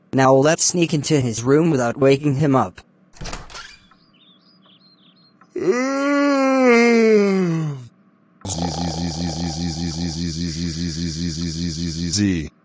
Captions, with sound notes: Now let’s sneak into his room without waking him up! *door opens* - *yawns irkly* *snores loudly*